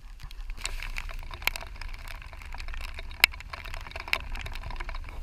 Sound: rain pattering

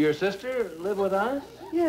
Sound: audience laughing

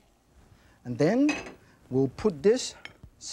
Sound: pan clinks

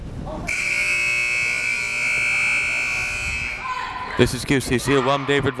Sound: timer buzzes

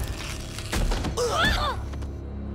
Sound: grunting

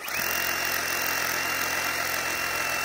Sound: skilsaw still buzzing

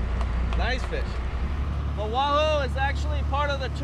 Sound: boat engine running

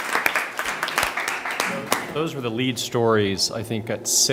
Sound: applause

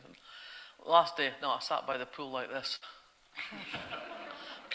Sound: audience laughter

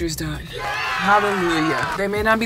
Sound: cheers

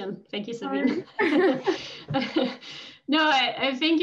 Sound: laughter

